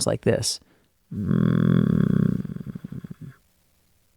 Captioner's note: vocal fry sound